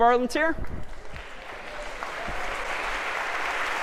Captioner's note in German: applaus